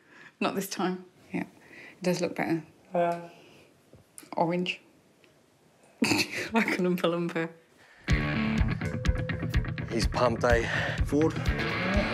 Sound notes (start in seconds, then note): 6.0 laughs